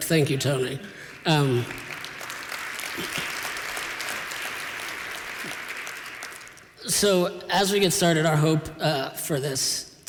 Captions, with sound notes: Thank you, Tony. [APPLAUSE] So as we get started, our hope for this